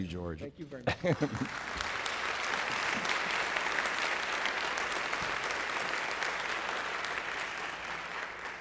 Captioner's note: applause